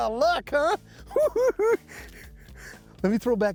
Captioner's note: chuckle